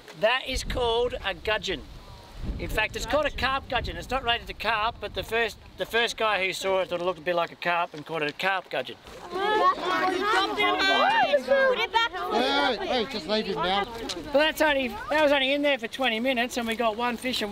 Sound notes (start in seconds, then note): 9.2 students exclaiming